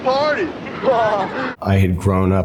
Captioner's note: group laughing